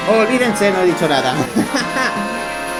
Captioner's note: laughs